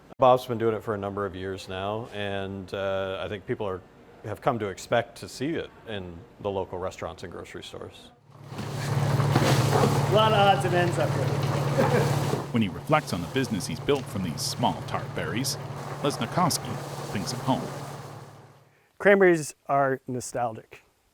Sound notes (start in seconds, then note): 9.0 engine rumbles; 11.2 laughs